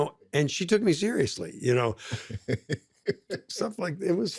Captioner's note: laughs